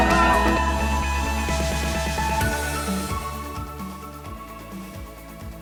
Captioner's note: cheers